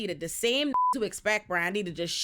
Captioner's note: beep